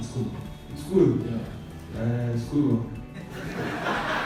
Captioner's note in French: rire